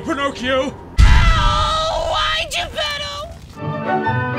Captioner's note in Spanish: gritando